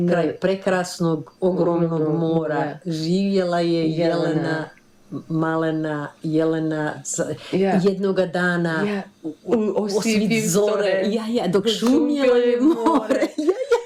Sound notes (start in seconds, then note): 4.1 both speaking Croatian; 10.9 both speaking Croatian and laughing